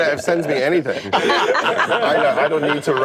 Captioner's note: laughter